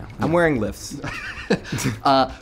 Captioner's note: laughs